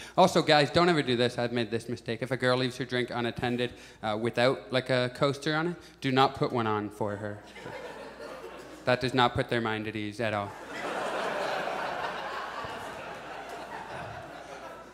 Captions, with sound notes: Also, guys don't ever do this. I've made this mistake. If a girl leaves her drink unattended, without like a coaster on it, do not put one on for her. [Audience chuckles] That does not put their mind at ease, at all. [Audience laughs]